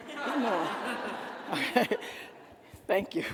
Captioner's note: attendees laughing